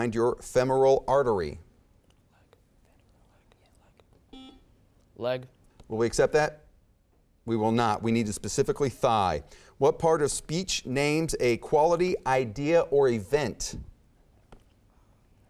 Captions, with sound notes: your femoral artery? (whispering) (beeping) - Leg? - Will we accept that? We will not, we needed specifically thigh. What part of speech names a quality idea or event?